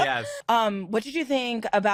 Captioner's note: laughter